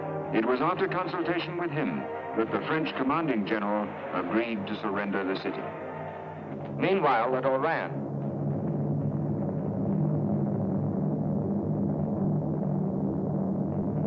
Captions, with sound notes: It was after consultation with him that the French commanding general agreed to surrender the city. Meanwhile, at Oran... [planes droning]